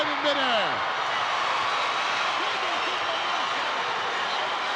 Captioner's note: crowd cheering